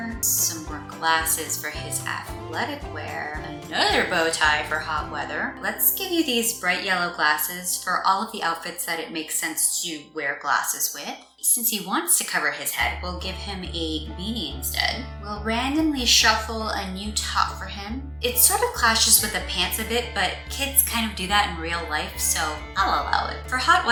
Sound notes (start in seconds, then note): none